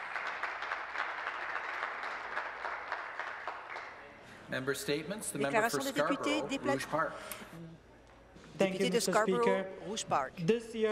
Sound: applause

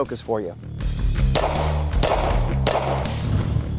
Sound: gunshots

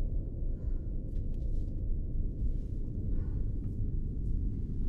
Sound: woman breathes heavily

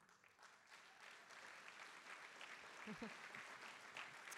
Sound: audience applauding

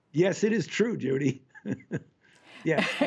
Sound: laughter

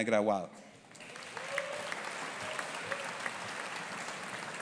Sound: audience applauding

